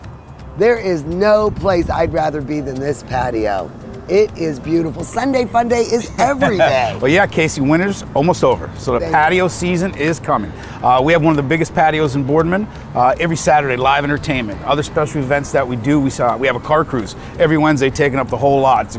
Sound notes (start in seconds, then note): 5.9 laughing